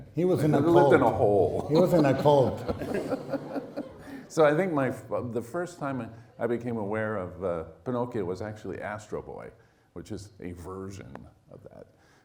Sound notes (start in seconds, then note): 2.7 laughing